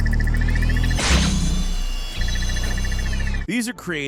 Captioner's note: device whirring